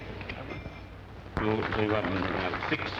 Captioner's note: people applauding